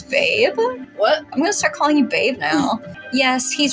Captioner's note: chuckle